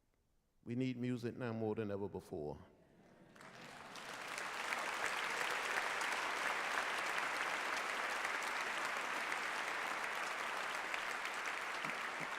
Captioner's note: applause